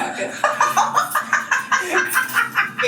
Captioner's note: laughing